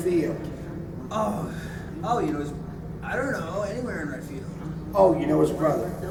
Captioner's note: grunts